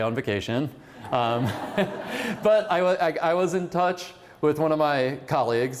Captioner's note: laughter